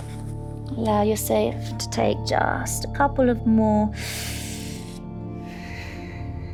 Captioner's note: calm music; inhales